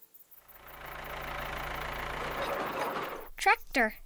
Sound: motor rumbling

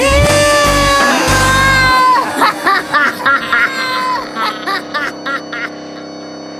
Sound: evil laughter

